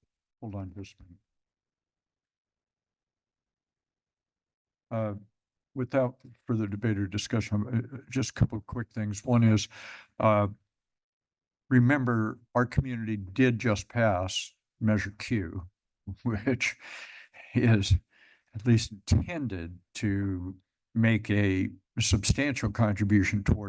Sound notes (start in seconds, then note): 1.4 pause